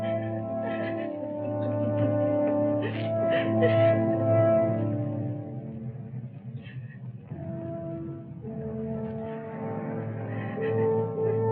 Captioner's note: crying